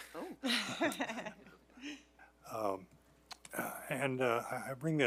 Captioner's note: laughs